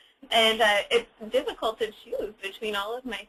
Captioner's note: laughs